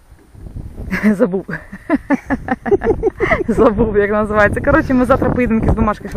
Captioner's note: laughter